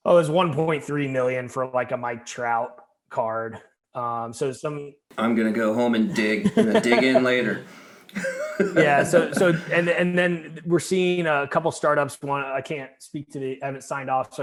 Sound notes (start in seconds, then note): 8.2 all laughing